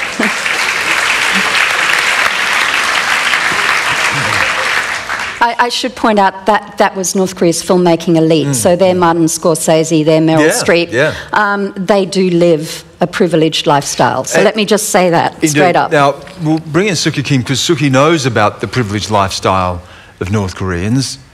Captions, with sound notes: [ Applause ] I, I should point that, that was North Korea's filmmaking elite, so they're Martin Scorsese, they're Meryl Streep. >> Yeah, yeah. >> They do live a privileged lifestyle, so let me just say that. >> They do. Now, well bring us to Suki Kim because Suki knows about the privileged lifestyle of North Koreans.